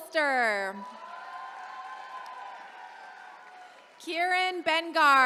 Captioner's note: attendees cheering